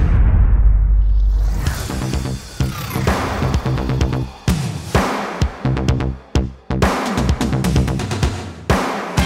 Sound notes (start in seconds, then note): 1.3 electricity whirring; 1.8 upbeat music